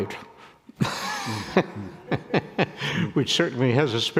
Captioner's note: people laughing